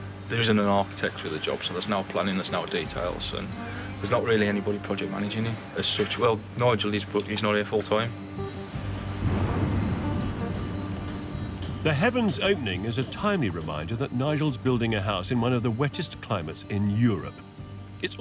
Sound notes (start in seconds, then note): 8.7 upbeat music; 8.9 thunderstorm cracking